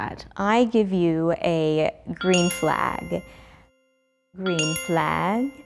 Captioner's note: bell dings